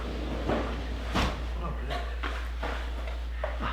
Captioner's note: door slides